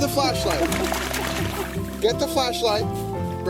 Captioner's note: camera Operator laughing